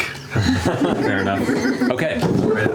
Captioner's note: laughs